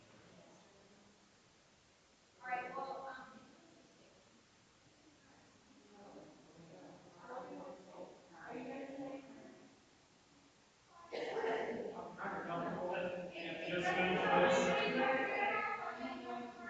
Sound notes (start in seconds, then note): 5.1 people chattering distantly continues